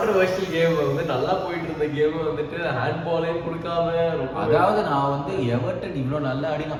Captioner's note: fuming